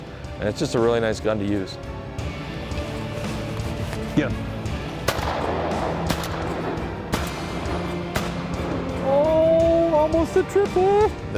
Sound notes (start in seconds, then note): 4.8 gun shots